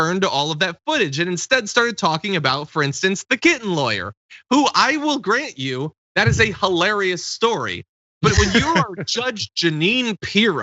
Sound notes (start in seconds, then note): 8.2 laugh